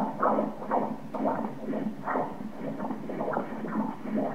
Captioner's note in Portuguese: som do coração